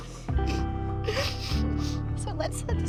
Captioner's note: sniffling